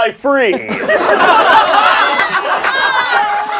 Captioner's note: laughing